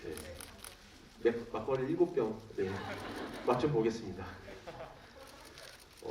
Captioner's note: laughs